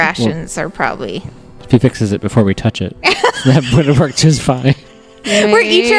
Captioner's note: laughter